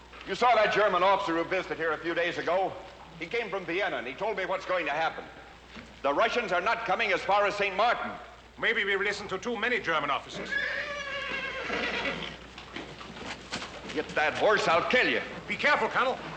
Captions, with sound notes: YOU SAW THAT GERMAN OFFICER WHO VISITED A FEW DAYS AGO. HE TOLD ME WHAT'S GOING TO HAPPEN. THE RUSSIANS ARE NOT COMING AS FAR AS ST. MARTIN. MAYBE WE'VE LISTENED TO TOO MANY GERMAN OFFICERS. [ Horse Whinnying ] - HIT THAT HORSE, I'LL KILL YOU. - BE CAREFUL, COLONEL.